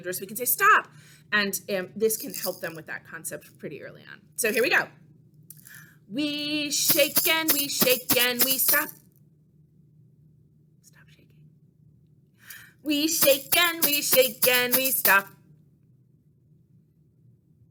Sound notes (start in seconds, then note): 9.4 whispers: stop shaking